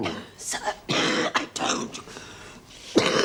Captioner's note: السعال